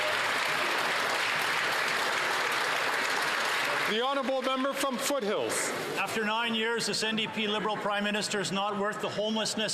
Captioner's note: some Applause